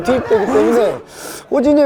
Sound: deep breath

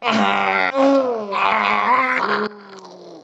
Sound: angry noises; more angry noises

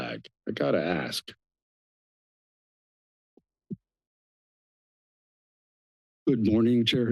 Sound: silence

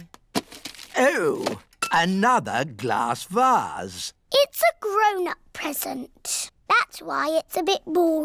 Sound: none

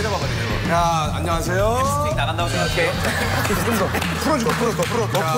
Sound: laugh

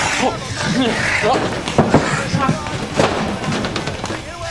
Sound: zombie growls; Ed shouting

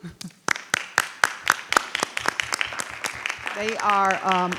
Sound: audience applauding

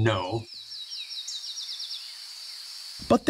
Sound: birds chirping

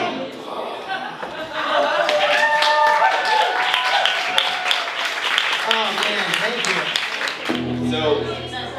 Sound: applause, cheers

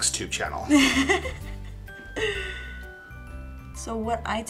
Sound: laughing

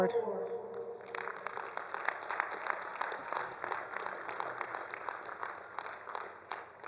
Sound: attendees applauding; attendees cheering

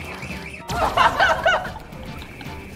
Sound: laughing out loud

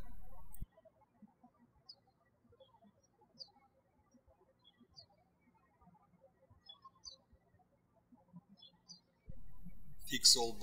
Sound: birds chirping

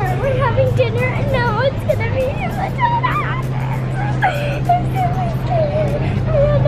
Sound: squeals

